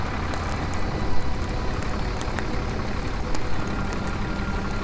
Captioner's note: fire raging; gentle music